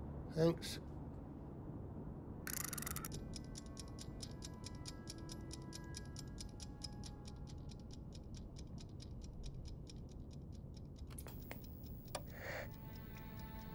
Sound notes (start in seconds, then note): 3.2 mellow music; 3.4 timer ticks